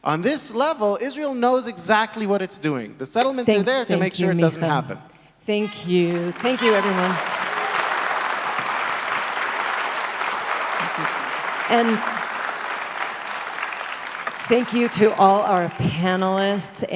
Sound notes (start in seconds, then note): 7.5 audience applauds